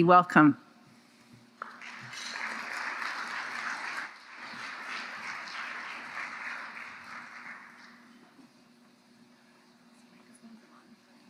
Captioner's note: applause